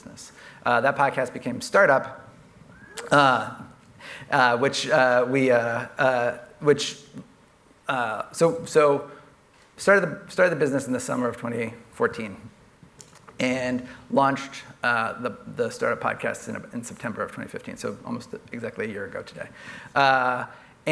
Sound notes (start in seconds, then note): none